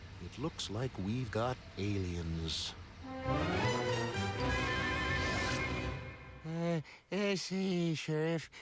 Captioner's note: none